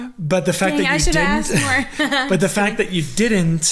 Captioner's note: laughing